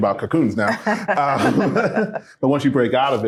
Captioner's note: group laughing